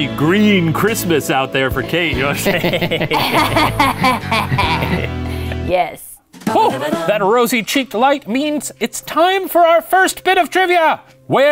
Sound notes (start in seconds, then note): 2.3 all laugh; 6.6 musical sting